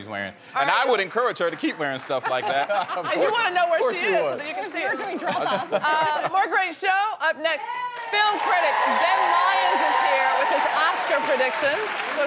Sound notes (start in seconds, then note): 7.8 audience applauding